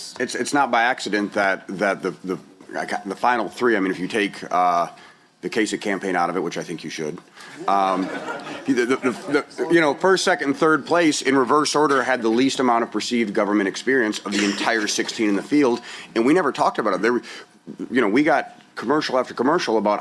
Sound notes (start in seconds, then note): 7.6 laughter